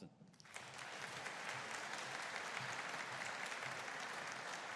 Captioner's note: audience applauding